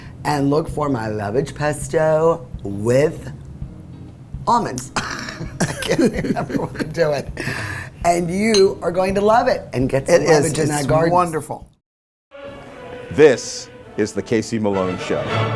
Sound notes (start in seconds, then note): 5.0 laughing